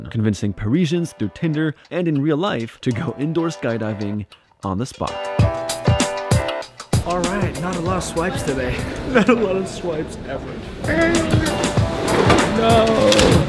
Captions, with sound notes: convincing Parisians through Tinder and in real life to go indoor skydiving on the spot. Alright, not a lot of swipes today. Not a lot of swipes ever *fake cries* No...